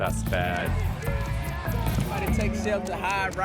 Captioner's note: yelling